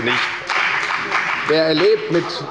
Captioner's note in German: Beifall bei der FDP